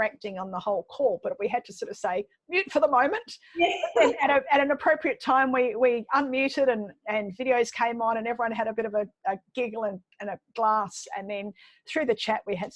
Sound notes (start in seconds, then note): 3.6 laughing